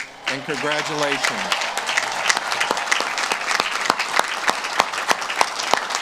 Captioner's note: audience claps and cheers